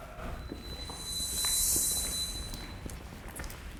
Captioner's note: feet thumping